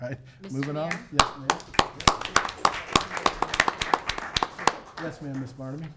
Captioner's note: everyone applauding